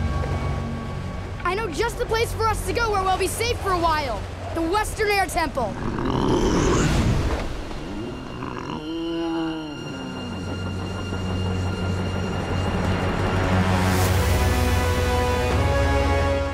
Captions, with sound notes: I know just the place for us to go where we'll be safe for awhile, the Western Air Temple. [Appa grunting]